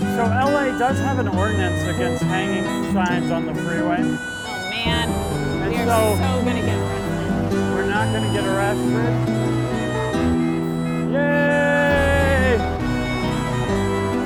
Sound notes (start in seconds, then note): 11.1 car honks